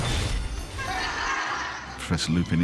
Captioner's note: students laughing